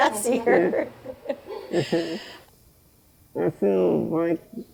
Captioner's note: laughs